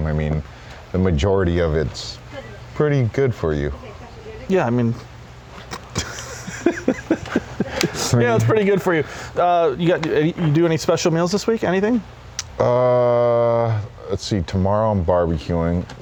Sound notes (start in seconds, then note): 5.5 laughs